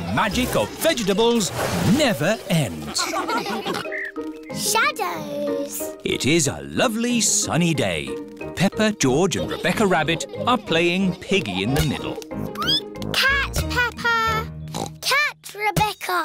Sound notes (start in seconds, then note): 12.1 squeaks; 14.7 oinks